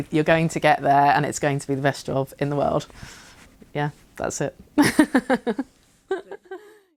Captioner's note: laughs